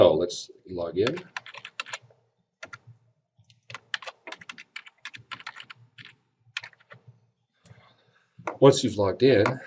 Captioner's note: typing